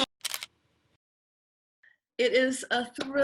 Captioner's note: camera clicking